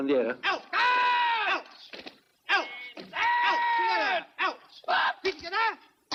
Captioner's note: shouts